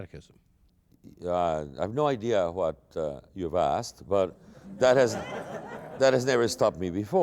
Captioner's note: laughter